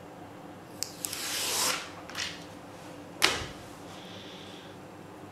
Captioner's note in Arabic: تمزقات الورق